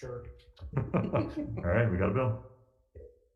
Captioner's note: legislators Laughing